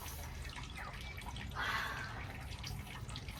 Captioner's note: sighs